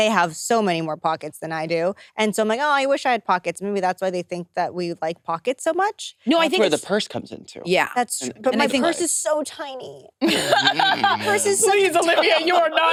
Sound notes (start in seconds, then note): 10.2 participants laughing; 12.7 participants chattering